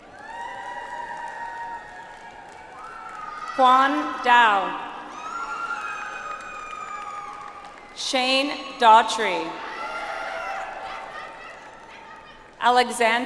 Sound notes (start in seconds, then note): 0.0 audience applauds; 9.2 audience applauds